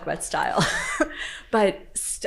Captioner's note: laughing